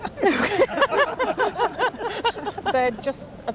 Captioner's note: all laugh